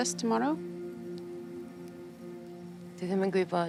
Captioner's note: in Welsh